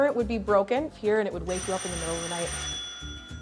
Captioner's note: alarm bell ringing